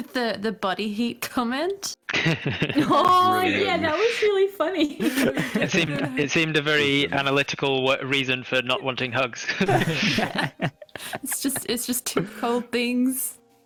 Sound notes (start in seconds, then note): 2.1 laughs; 9.4 all giggling